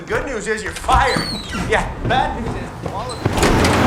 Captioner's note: door swings open